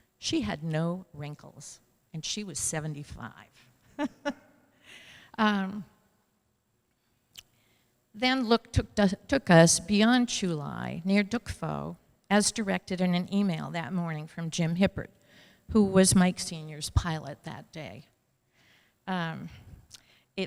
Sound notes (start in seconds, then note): 3.9 laughter